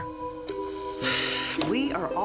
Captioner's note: Nora sighs